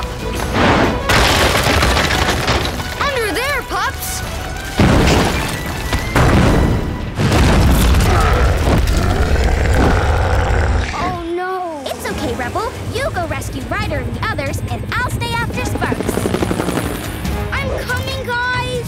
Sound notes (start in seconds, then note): 8.0 grunting